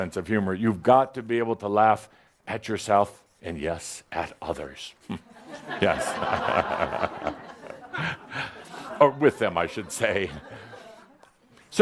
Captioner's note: laughter